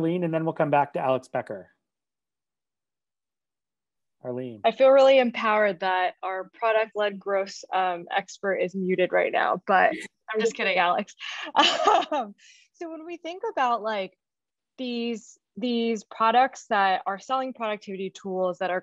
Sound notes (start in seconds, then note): 11.2 laughs